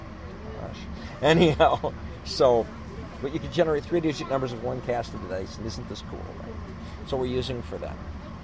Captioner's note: laughs